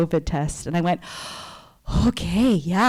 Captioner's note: sighs